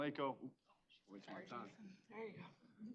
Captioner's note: overlapping chatter